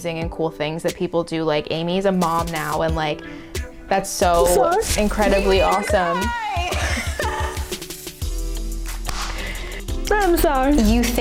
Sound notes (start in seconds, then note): 7.4 laughing